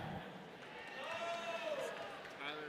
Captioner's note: audience cheering